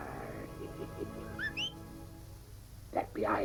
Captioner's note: whistling